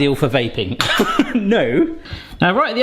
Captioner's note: laughs